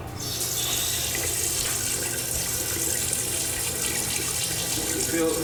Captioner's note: water hissing and sloshing